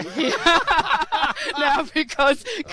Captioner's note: laughter